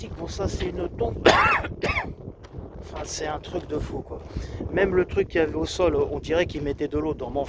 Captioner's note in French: toux